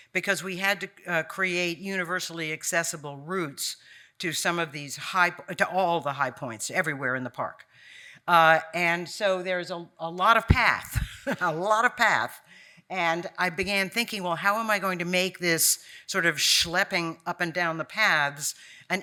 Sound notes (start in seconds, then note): 10.9 chuckling